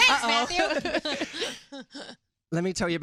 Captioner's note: laughter